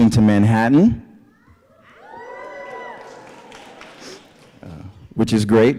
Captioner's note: cheering